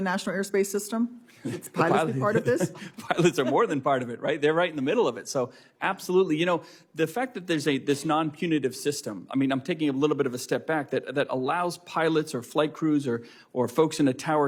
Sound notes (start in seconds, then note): 4.0 laughter